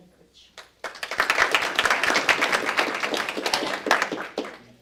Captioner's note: applause